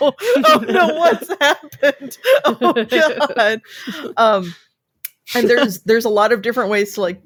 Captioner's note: laughs